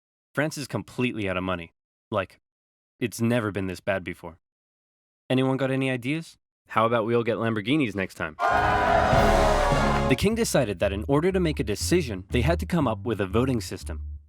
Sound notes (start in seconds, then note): 8.4 massive applause